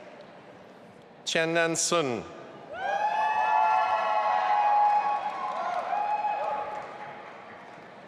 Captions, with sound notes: Qiannan Sun. (audience applauding and cheering)